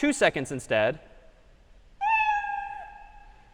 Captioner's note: meow